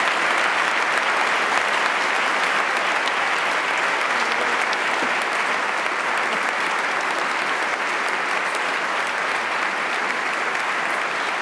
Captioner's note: applause